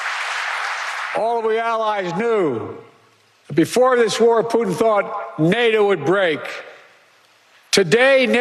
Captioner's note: applause